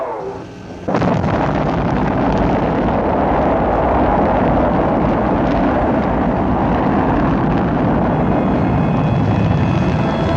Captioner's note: rocket Launch